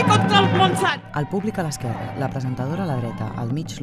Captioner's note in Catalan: Aclamacions